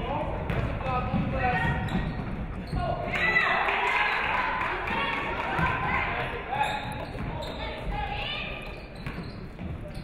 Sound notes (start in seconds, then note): 3.3 audience cheering; 3.6 audience clapping